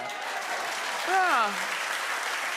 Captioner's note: audience applauding